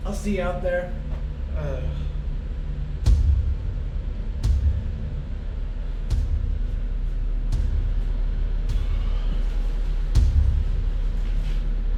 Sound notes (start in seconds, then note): 3.1 ominous thudding